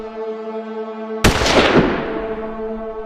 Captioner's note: gun Shot